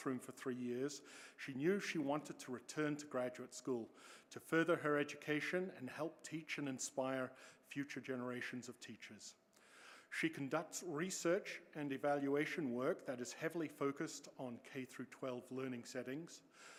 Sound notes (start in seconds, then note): none